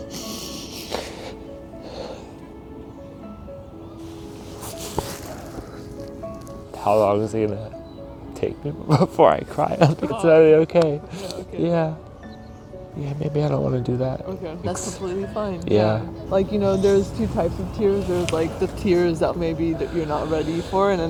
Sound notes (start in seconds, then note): 0.0 participant sobbing; 4.0 fabric rustling